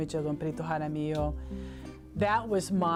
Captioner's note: speaking spanish